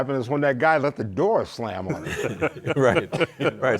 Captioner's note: group laughs